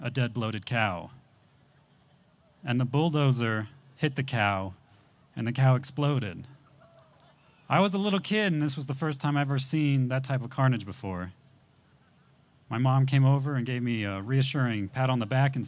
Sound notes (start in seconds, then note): none